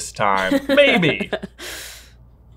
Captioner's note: laughing